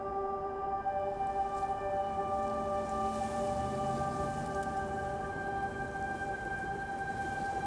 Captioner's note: somber music; leaves rustling; car engine rumbling